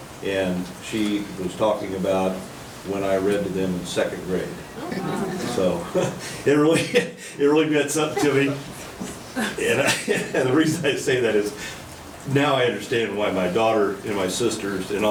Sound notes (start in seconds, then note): 4.6 audience chattering; 8.0 chuckles